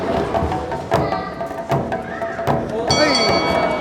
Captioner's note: crowd chattering; bell ringing